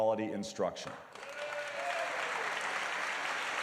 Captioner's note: applause